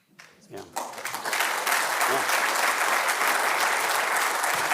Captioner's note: audience applauding